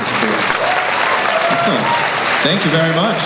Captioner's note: cheering; voiceover